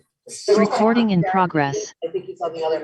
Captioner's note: automated Voice